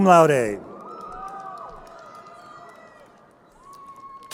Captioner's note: crowd cheering